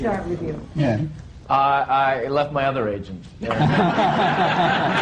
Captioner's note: laughter